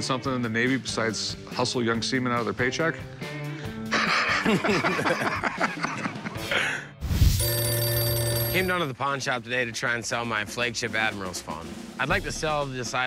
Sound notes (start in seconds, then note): 3.9 laughter; 7.4 ringing phone